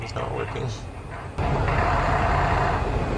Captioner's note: pa system